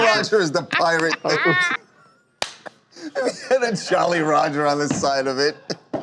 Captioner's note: laughter